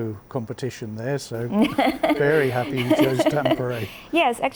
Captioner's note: laughs